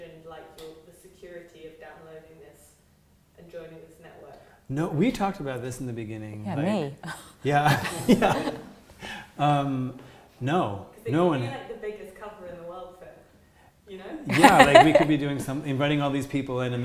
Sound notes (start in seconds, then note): 7.4 laughter